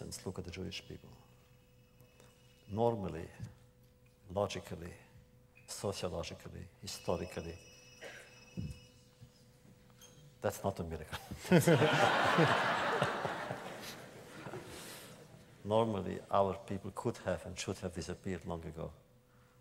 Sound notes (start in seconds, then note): 7.6 phone rings; 13.7 laughter